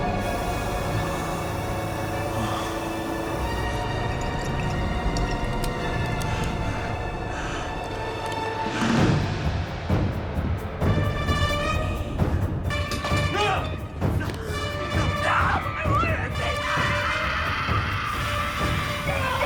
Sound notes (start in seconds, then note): 0.5 gas hissing; 3.0 wine glugging; 7.6 dark intense music; 14.1 dark intense music; 16.5 Elaine screams; 19.2 Will screams